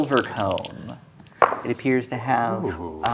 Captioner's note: dice rolling